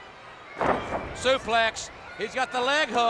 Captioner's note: body thudding